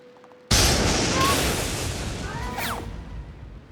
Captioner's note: thunder crashes